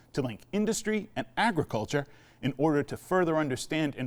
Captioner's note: none